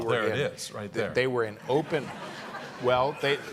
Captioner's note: audience laughing